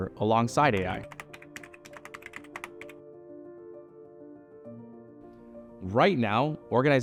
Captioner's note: gentle music continues; keyboard clicking